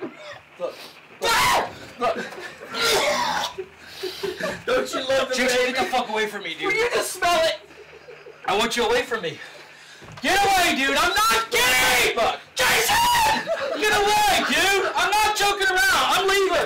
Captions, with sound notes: here...look! ahhhh Look! (gagging) Jason get the fuck away from me! will you just smell it? I want you away from me... get away dude, im not kidding!! JASON! get away dude! I'm not joking around! I'm leaving!